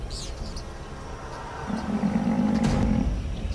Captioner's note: growls